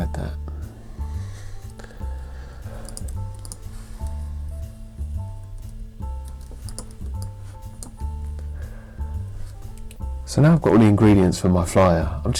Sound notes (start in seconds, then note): 6.2 mouse clicking